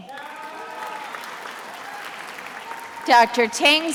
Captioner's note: attendees applauding